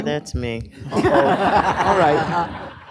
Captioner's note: laughter